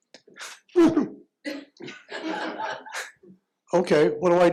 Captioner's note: chuckles